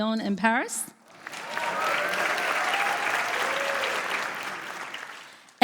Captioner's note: applause